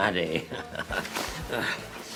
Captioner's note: laughter